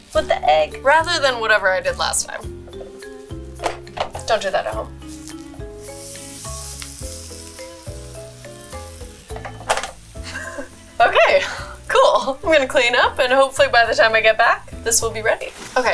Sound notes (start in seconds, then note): 6.0 waffler maker sizzling; 7.5 mischievous music